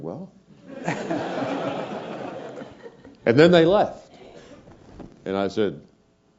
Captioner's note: laugh